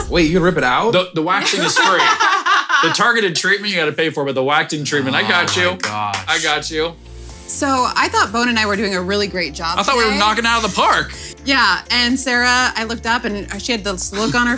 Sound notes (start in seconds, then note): 1.4 women laughing; 5.3 clapping